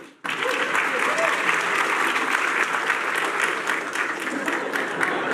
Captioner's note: applause